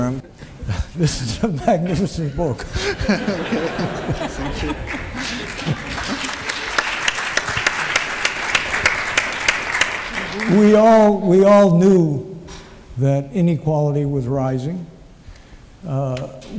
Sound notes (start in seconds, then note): 3.6 laughter; 4.5 applause